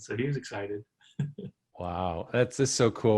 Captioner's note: chuckles